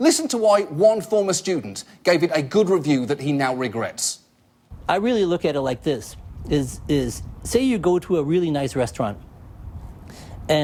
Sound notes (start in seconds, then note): none